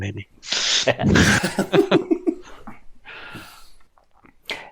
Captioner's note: laughter